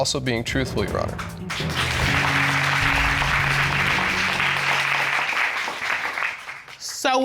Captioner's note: audience applauding